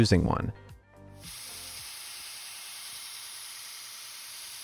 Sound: phone sanding

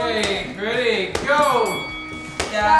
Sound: ball bounces; boxing bell

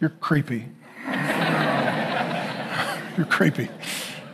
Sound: congregation laughing

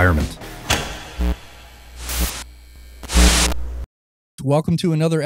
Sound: electrical hum and glitching

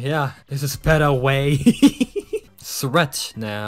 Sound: laughing

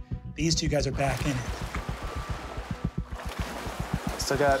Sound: water sloshing

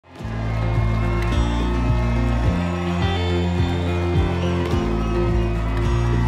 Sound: audience cheering; gentle upbeat music

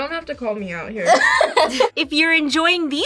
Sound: laughs

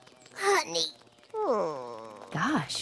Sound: groan

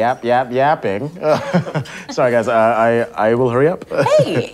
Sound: laughs

